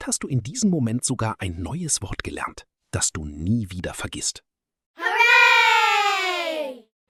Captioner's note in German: schreien